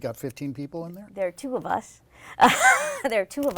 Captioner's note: laughs